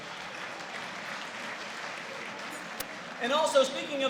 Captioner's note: applause